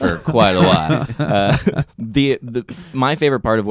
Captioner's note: laughing